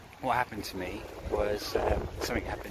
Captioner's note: wind whooshing